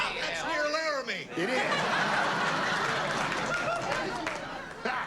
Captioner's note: laughter